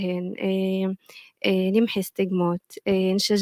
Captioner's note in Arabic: لغة أجنبية